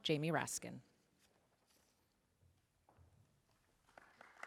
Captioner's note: applause